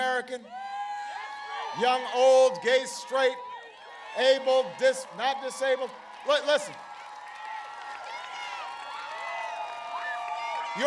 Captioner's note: applause